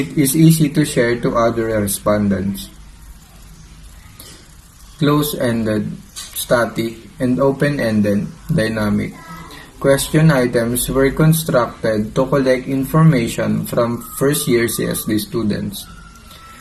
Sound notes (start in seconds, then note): 6.5 Static